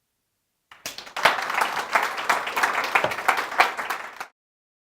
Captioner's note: applause